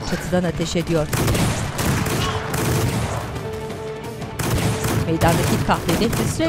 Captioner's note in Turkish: Müzik - Gerilim; Silah sesleri